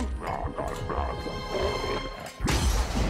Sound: angry alien speech; dramatic sound

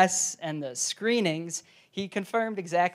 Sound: none

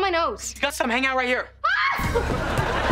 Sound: screaming

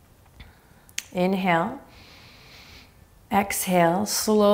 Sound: inhaling deeply

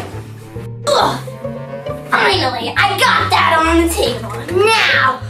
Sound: Evil Assistant grunts

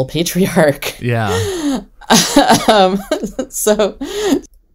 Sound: laughs

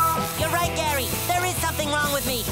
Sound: meowing

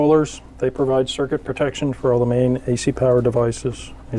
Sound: none

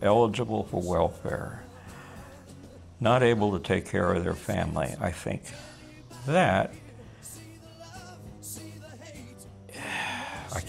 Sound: deep breath

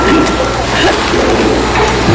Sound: chuckling

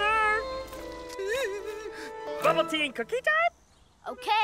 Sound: whimpers

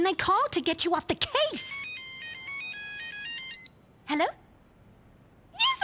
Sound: cellphone ringing

